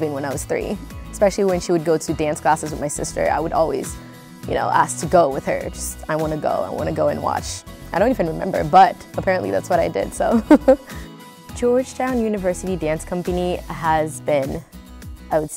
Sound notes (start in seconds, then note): 10.3 giggles